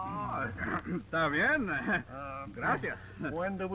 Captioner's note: Pablo speaking in foreign language